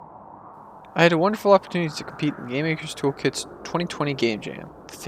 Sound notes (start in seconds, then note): 0.0 wind noises